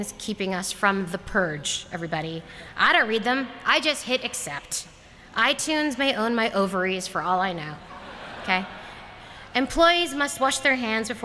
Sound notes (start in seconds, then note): 7.8 laughter